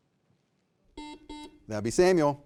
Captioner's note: buzzer beeping